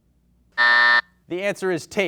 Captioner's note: buzzer sounds